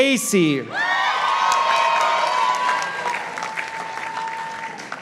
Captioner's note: participants applauding